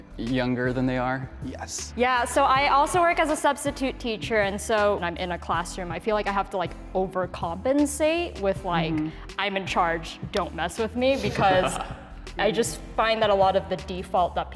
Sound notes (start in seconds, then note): none